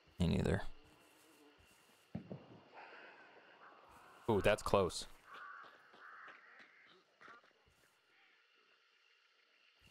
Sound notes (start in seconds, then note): 2.0 explosion; 2.6 crows cawing